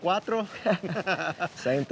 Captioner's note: laughter